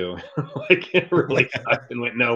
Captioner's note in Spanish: Risas